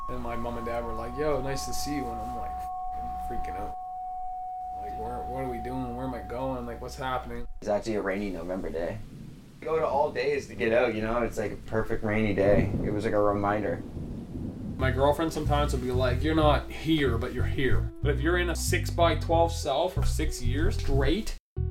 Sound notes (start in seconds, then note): 9.0 thunder sounds